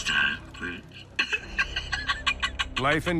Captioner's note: laughs